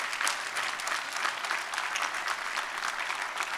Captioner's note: applause